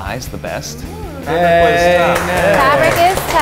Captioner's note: claps